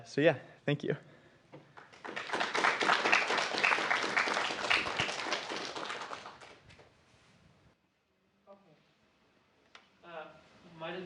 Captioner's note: applause